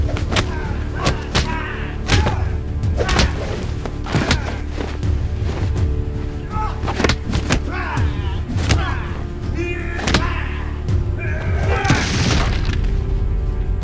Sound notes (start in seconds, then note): 4.8 coat rustling; 6.6 fists thudding; 7.8 men groaning